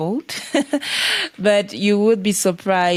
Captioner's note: chuckles